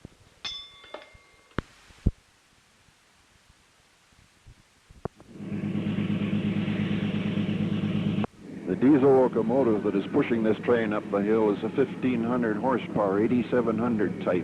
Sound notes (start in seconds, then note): 0.4 bell Sound; 1.2 sound of train moving